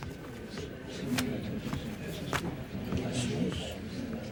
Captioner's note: overlapping chatter